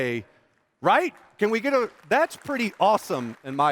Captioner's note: applause